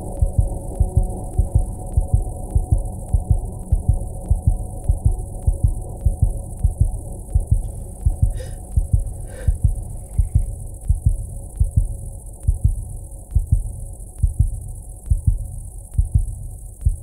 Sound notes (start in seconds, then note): 9.4 heart pounding; 9.4 insects chirping